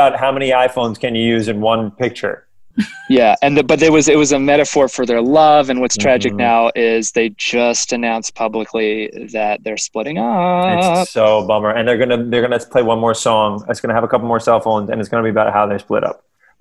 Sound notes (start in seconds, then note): 2.8 laughing